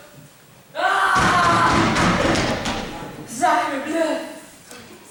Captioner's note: loud bumping sounds